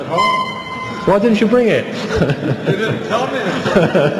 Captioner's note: laughs